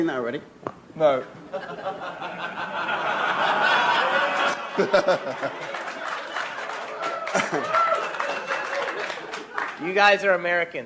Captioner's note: audience laughs